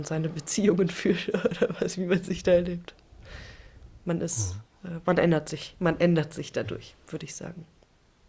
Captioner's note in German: gelächter